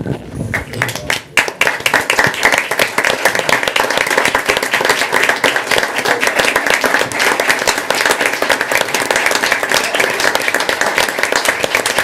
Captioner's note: applause